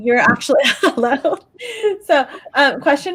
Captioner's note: laughs